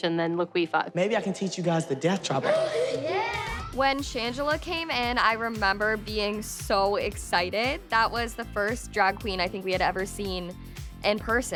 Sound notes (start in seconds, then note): 2.4 gasps